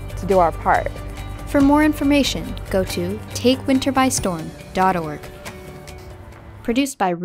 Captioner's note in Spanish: voz en off